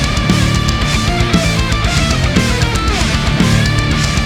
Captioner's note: cheers and applause